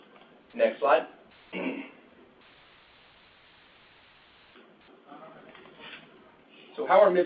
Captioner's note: silence